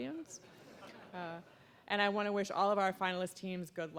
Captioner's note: audience laughing